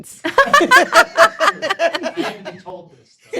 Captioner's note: everyone laughs